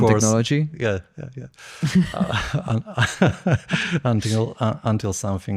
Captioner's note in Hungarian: nevetés